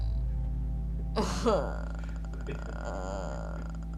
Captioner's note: chuckles